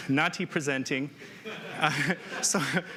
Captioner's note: laughs